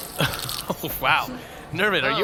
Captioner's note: Nermut vomits